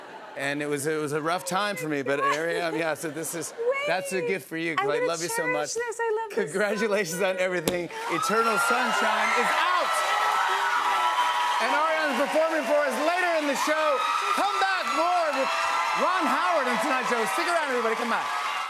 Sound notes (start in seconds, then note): 8.6 cheers and applause